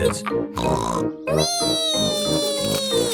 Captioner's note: snorts